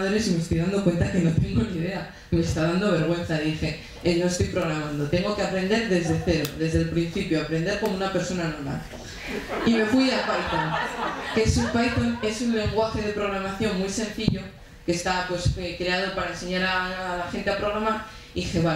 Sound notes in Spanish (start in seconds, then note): 9.1 Risas